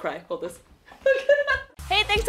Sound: laughs

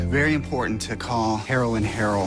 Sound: static

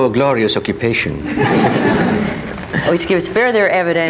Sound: audience laughs

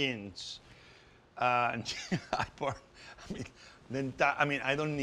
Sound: chuckles

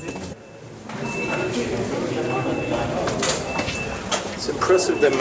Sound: alarm beeping

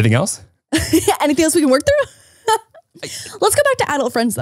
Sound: laughs

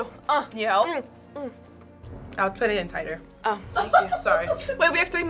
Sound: FBE laughs

